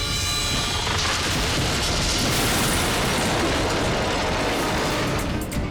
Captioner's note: firetruck clashes; tree rumbles